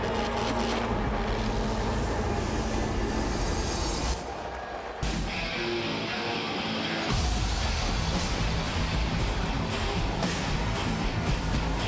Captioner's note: crowd cheering